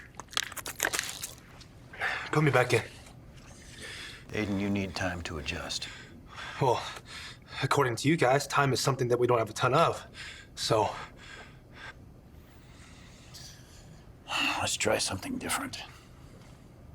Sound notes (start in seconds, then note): 14.5 sighs